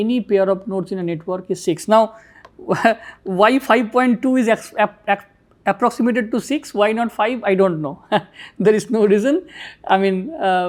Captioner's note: laugher